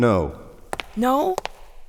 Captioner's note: voiceover; footsteps; voiceover